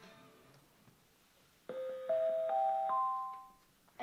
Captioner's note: ding, ding, ding, ding